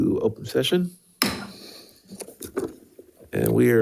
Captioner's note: gavel thuds